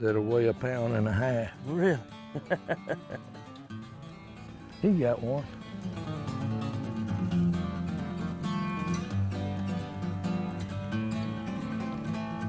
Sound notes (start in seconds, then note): 2.3 laughter; 6.3 lively music